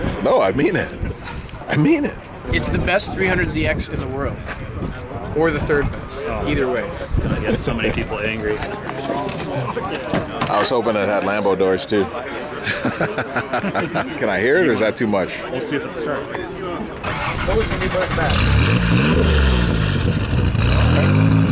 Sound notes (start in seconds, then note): 12.6 laughs; 17.0 engine starts; 18.7 engine idling